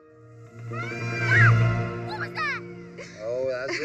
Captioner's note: screams; bird screeching; laughing